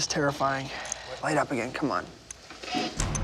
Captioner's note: static, distorted voice